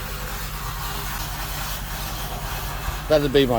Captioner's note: machine whirring